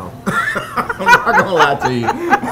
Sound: laughing

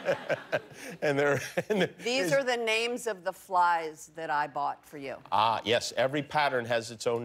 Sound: laughter

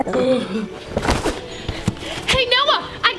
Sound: moaning; box thumping

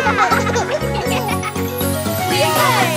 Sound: children laughing; happy music

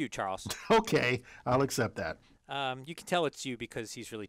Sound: laugh

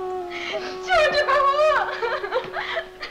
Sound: crying

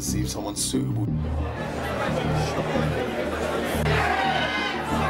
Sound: crowd talking

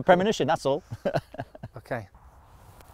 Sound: giggles

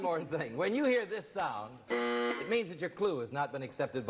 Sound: buzzer drones

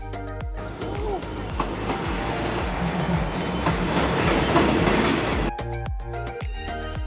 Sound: train sound

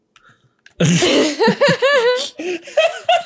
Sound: laughter

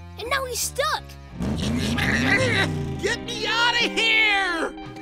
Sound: grunting

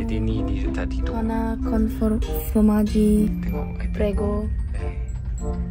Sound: speaking Italian; background music

